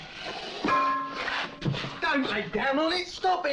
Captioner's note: bell clangs